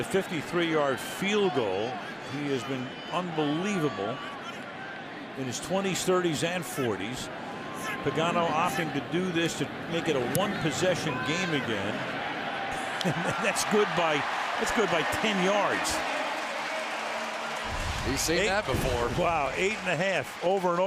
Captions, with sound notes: this is going to be a 53-yard field goal. He has been unbelievable in his 20s, 30s, and 40s. Pagano opting to do this to make it a 1-possession game again. And that's good by-- that's good by 10 yards. [pa announcement] He's seen that before. Wow.